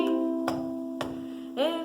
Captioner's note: stomps feet